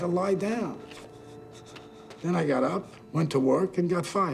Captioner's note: shivering